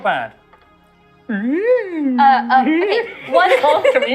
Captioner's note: echo sounds